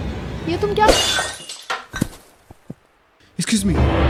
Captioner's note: breaking glass